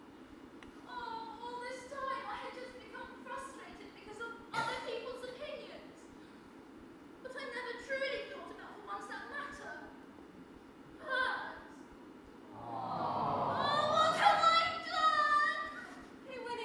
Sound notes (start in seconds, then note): 12.5 awwwww; 15.6 cries